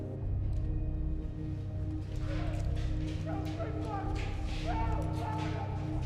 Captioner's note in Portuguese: gritos indistintos, berros